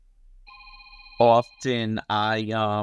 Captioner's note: phone ringing